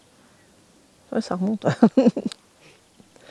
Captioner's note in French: Rires